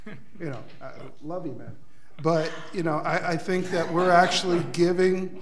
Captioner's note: board laughs